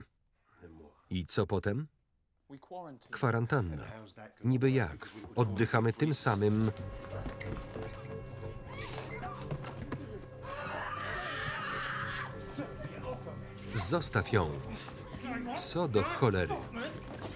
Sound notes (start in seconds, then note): 10.4 screams